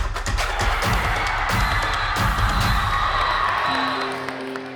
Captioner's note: cheering